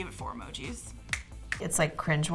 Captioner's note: snaps fingers